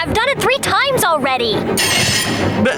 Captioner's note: screeching